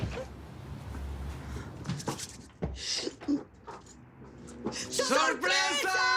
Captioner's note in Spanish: Sonido al abrir y cerrar la puerta; A coro